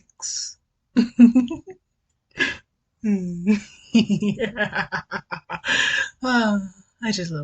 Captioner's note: deranged laughter